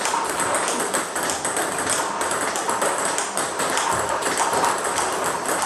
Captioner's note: ball ping pong hitting continues